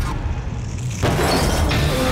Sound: banging

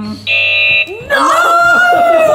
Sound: buzzer beeps loudly; all laughing

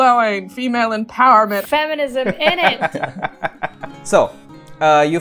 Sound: laughter

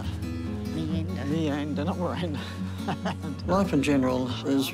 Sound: chuckles

